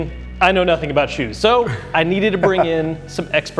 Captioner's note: laughs